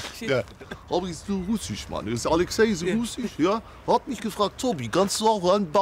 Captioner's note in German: mit russischem Akzent